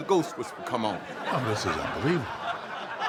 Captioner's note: audience laughs